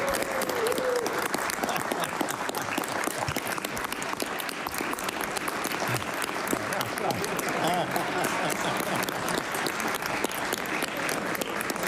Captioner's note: applause